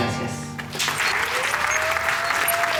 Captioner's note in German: Applaus